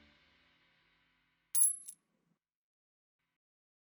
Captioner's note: clinking